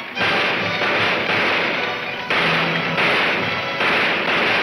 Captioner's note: gunshots banging